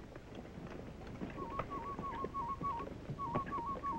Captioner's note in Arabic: صافرة الطائر